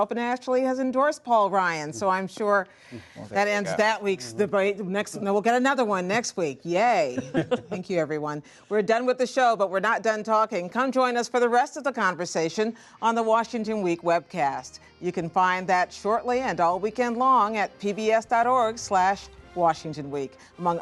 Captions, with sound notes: and actually has endorsed Paul Ryan. So I’m sure that end’s that week’s debate. And we’ll get another one next week – yay. (Laughter.) Thank you, everyone. We’re done with the show, but we’re not done talking. Come join us for the rest of the conversation on the Washington Week Webcast. You can find that shortly and all weekend long at PBS.org/WashingtonWeek.